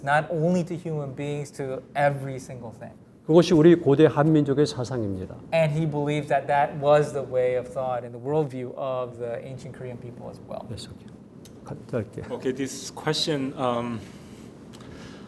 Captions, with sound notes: not only to human beings, to every single thing. (speaking in Korean) - And he believes that that was the way of thought in the worldview of the ancient Korean people as well. (speaking in Korean) - Okay, this question.